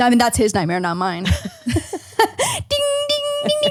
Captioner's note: laughing